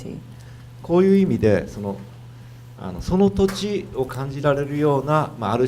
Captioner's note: speaking foreign language